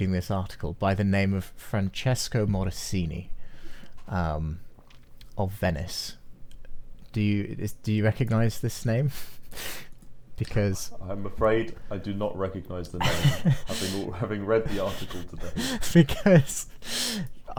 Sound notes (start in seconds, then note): 12.9 laughs